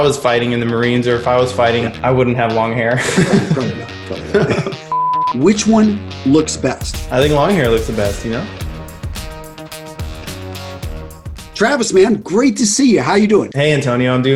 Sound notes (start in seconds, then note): 2.9 laughs